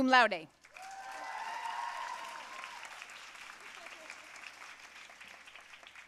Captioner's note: audience cheering and applauding